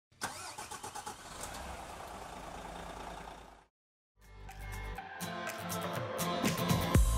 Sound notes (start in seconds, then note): 0.1 vehicle starting; 4.2 upbeat music